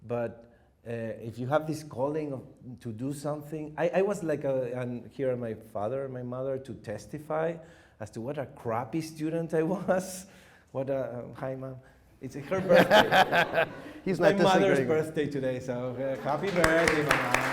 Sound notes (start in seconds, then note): 12.4 laugher